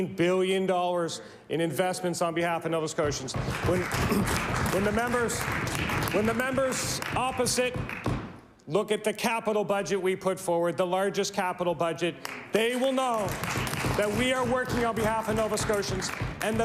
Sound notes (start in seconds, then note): 7.6 applause